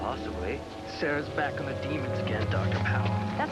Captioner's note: buzz